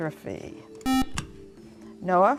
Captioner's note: buzzer